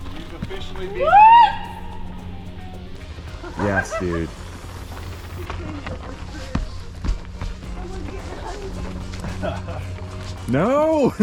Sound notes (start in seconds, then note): 1.2 shouting; 3.0 wheels whooshing; 7.6 wheels whooshing